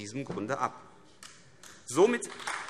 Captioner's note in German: Beifall AfD